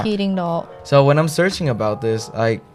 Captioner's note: Taiwanese